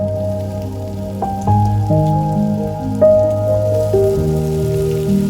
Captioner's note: oil sizzles in fry pan; low tempo piano music continues